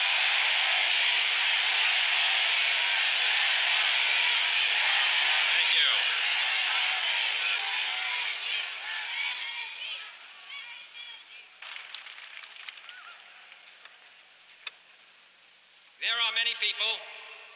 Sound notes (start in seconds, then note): 6.9 cheering